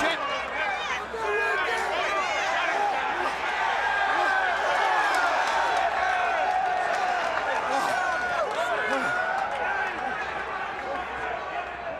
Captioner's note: crowd chatter